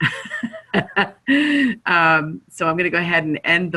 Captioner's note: laughter